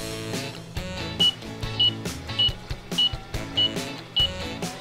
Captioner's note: timer beeps